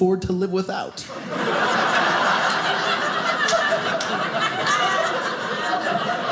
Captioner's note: audience laughing